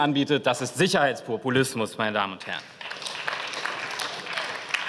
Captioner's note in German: Beifall